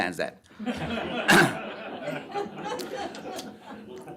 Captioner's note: laughter